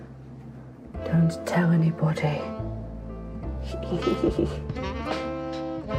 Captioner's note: giggles